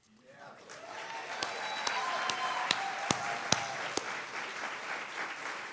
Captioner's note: audience applauding and cheering